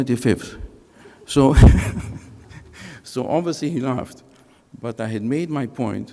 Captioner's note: chuckles